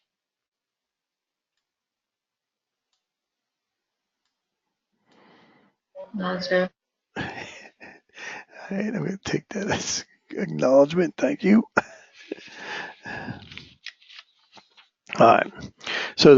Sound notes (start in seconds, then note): 8.1 laugh; 14.0 laugh